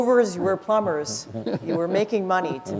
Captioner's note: laughter